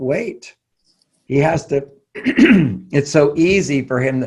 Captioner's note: coughs